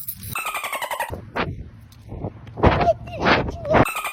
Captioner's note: birds chirping